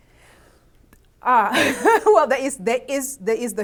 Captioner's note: laughs